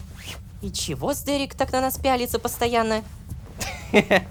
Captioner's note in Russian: шепотом